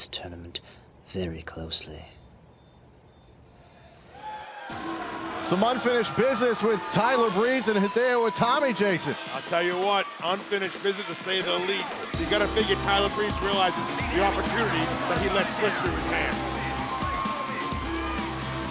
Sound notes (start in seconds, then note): 3.9 crowd cheering